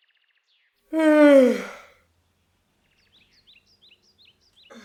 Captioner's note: loud yawn